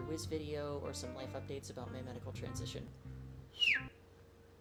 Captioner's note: chirp!